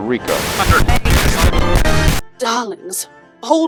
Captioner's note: glitching